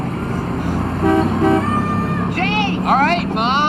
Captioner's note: horn blaring